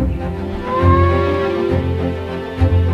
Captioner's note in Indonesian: meong